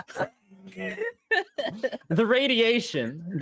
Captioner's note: players laughing